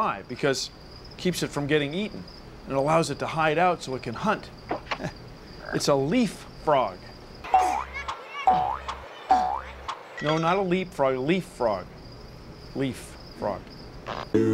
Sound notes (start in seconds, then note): 8.5 boing! boing! boing!